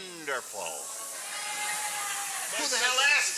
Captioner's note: hissing